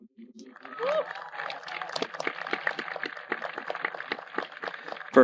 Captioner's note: audience applauding